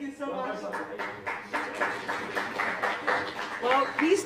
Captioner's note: applause